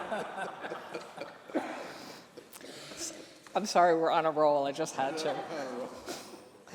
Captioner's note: laughter